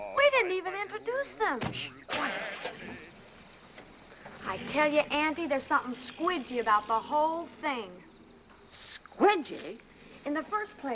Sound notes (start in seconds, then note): 2.0 shushes; 2.3 car starting